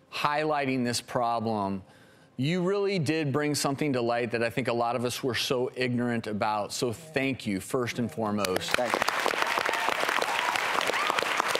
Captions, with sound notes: highlighting this problem. You really did bring something to light that I think a lot of us were so ignorant about. So thank you first and foremost. (applause)